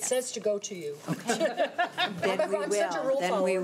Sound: laughing

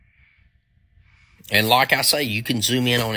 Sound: blank Audio

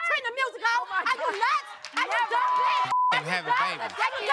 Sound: beep

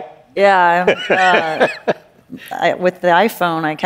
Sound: laughs

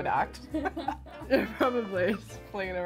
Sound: both laughing

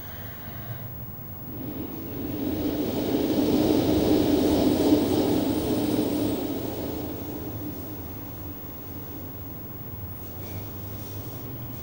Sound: shri mataji blows into the microphone

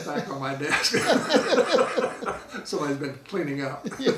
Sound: laughing

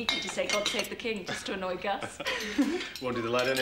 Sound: laughing

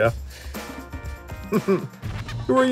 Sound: chuckling

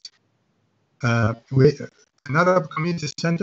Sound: audio connection deteriorating

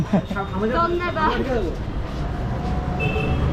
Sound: Hindi

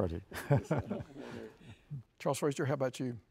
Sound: chuckles

